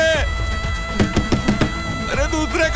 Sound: door knocking

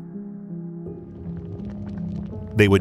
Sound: lava sloshing

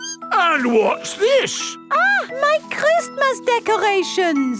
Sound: none

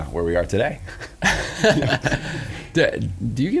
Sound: laughs

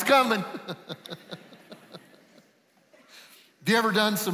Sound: laughing

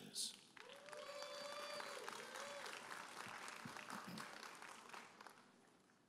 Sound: audience applauding and cheering

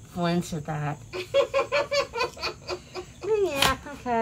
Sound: laughs

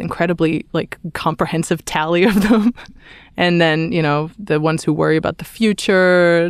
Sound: laughs

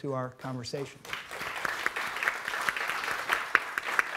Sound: applauding

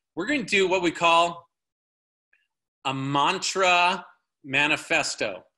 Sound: none

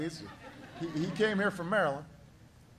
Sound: laughter

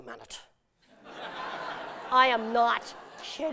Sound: laughter

